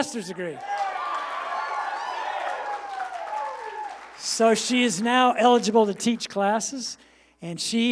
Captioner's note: applause